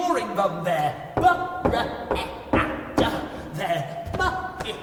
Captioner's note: creature stammering